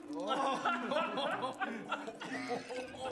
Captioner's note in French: rires